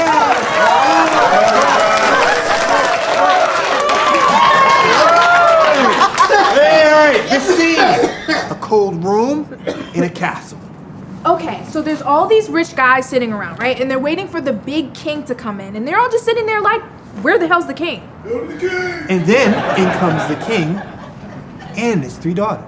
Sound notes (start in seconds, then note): 0.0 audience applauding; 3.7 cheering